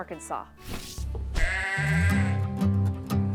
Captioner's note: sheep bleating